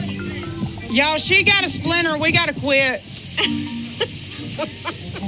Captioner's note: laughs